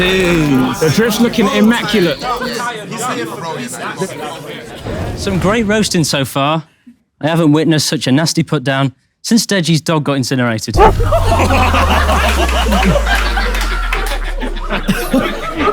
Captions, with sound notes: - Jeez. - The drip's looking immaculate. - He's here for business. - Some great roasting so far. I haven't witnessed such a nasty put-down since Deji's dog got incinerated. [dog bark] [people in room laughing]